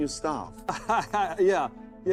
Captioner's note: laughing